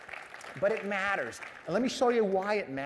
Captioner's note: applause